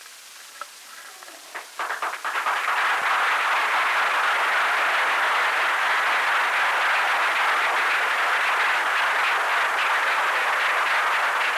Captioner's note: applause